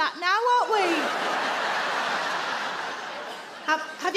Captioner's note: audience laugh